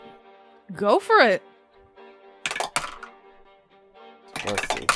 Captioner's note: dice clacks